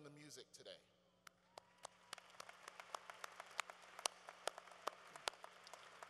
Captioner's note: applause